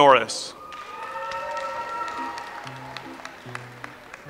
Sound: audience applauds

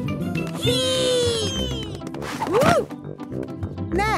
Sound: thumps

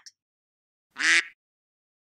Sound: quack

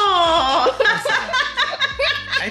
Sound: laughing

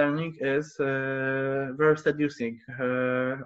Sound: speaks faintly

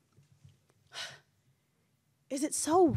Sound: exhales

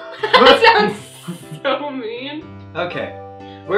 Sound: laughing

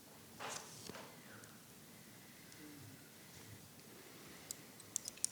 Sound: paper rustling; clicking

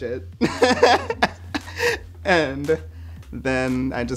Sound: laughing

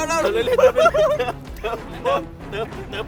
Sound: laughs in excitement

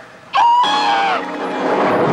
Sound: screaming; comical whirring and rattling

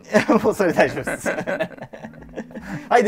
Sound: laughing

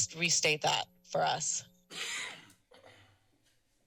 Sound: coughs; clears throat

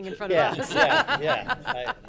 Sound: people laughing

